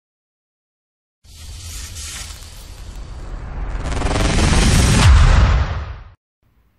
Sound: hissing and crashing intro sound effects

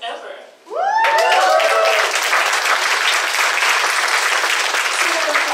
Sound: audience cheers and applauds

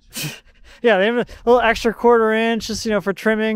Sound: laughs

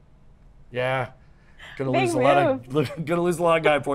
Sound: laughs

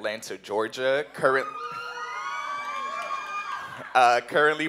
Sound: cheering

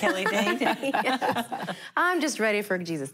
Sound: laughter

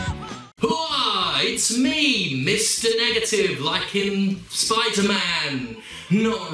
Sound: voice echoes

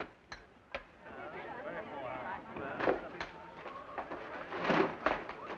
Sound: crowd murmuring

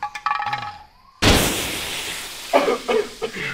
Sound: explosion sound; officers coughing

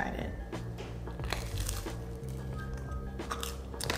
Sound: bagel crumches

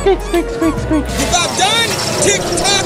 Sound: Samuel L Jackson sound clip; squeaking

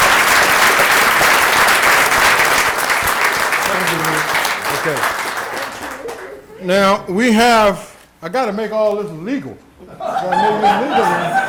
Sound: applause

